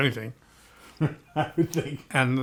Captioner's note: laughs